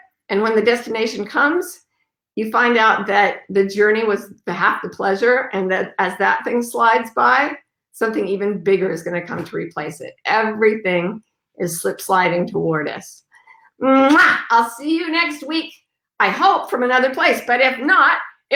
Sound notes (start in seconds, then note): 13.6 kiss